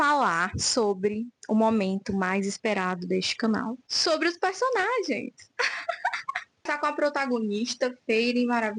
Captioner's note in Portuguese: risadas